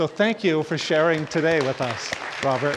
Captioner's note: audience applauding